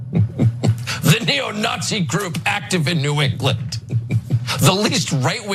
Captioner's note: laugh